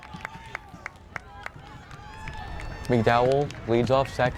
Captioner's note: crowd cheering